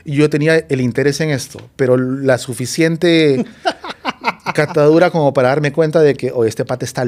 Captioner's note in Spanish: risas